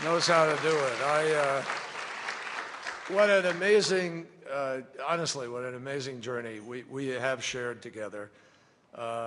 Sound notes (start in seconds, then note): 1.7 applause